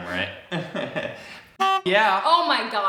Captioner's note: laughs; horn honks